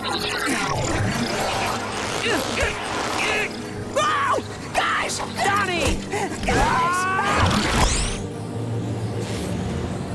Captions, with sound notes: [grunting] -Whoa, guys! -Donnie! [screaming]